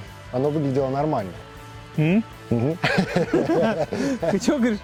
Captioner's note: laughter